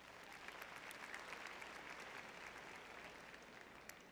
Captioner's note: audience clapping